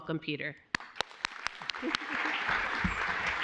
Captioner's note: applause